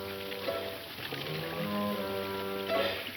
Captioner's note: plucky western music; water running